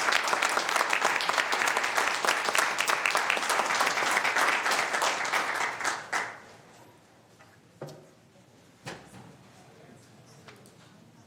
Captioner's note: applause